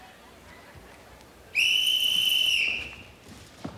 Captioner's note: whistle blowing